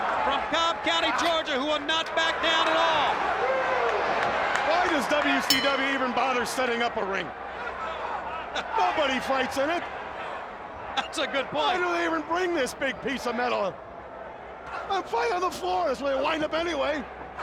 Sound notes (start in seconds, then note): 5.4 bell ringing